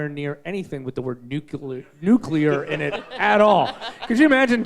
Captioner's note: all laughing